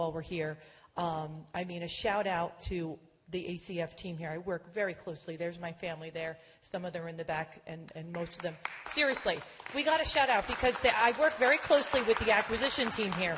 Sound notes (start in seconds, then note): 6.9 applause